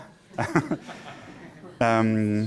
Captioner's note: laughter